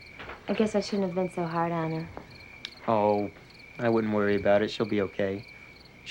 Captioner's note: insects chirring